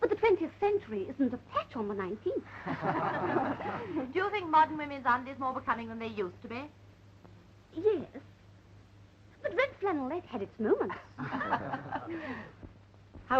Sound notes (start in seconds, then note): 2.6 laughing; 11.2 laughing